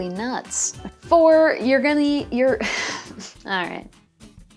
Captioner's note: laughs; stutters